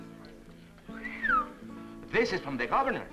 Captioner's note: whistles